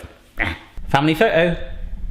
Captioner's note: scoffs